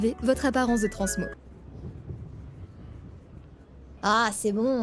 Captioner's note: wind noise